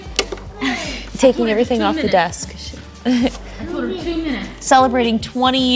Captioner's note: talking in the background